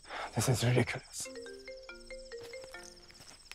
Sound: phone ringing

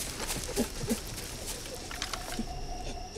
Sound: gasping

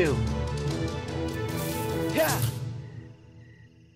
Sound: hisssss

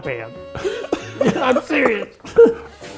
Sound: laughter

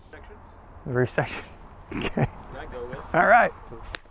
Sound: laughs

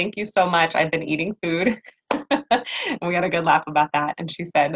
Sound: laughs

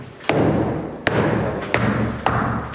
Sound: resounding hammering

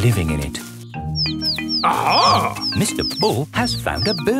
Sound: chirping

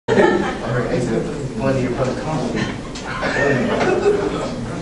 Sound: group chatter

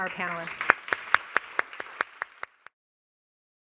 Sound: applauding

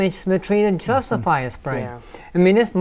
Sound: laughing

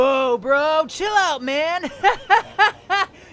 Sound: hearty laugh

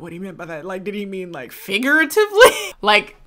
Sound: laughs

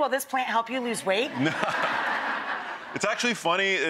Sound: audience laughs

